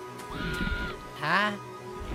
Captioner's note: muffled scream